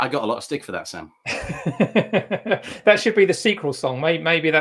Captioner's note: laughs